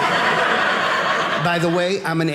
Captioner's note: audience laughing